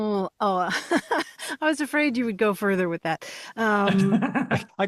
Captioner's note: laughs